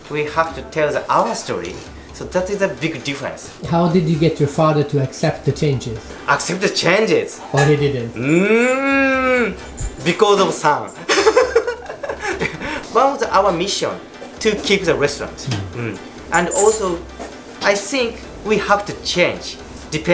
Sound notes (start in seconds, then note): 10.9 laughter